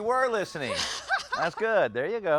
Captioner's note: laughs